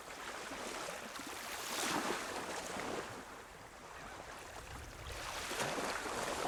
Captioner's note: waves softly crashing